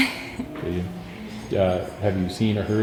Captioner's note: laughs